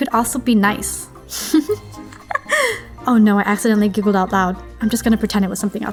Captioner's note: giggle